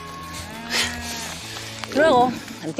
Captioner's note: moo